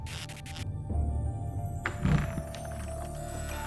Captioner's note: door creaking